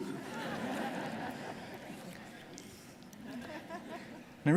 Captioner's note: audience laughing